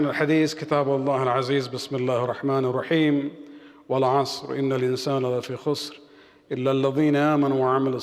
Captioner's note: arabic